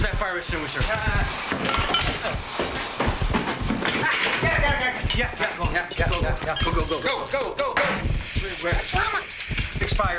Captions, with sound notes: - Where's that fire extinguisher? - Uh... (tools clanking) - Ah, got it, got it, got it! Yeah, yeah, yeah, yeah... - Go, go, go, go, go, go. - Go, go, go, go! (fire extinguisher hissing) Mama! It's expired!